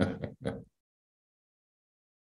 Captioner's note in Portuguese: Risos